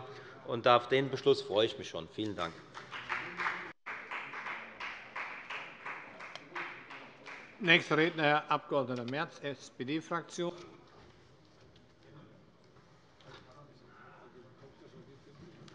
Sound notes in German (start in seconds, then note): 2.6 Beifall bei der FDP